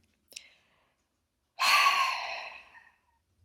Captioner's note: deep sigh